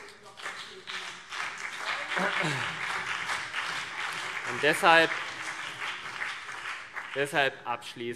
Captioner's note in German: Beifall CDU und BÜNDNIS 90/DIE GRÜNEN